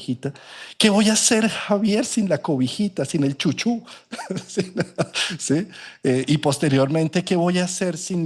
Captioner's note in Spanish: risas